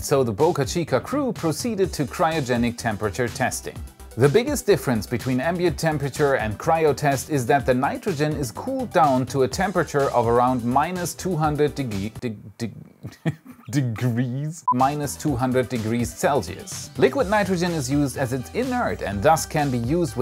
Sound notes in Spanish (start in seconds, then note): 13.2 con mal acento